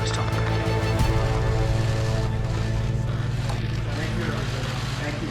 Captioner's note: cameras clicking